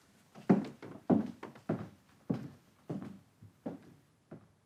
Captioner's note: shoes tapping